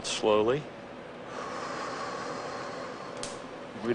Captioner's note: exhaling